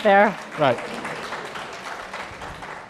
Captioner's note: applause